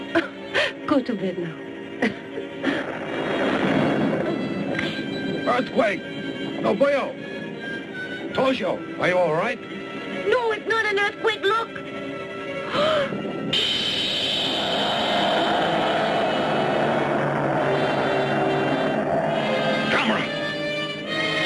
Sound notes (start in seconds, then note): 2.0 laughs; 2.2 earth rumbles; 12.6 Nobuyo gasps; 14.2 Gammera roars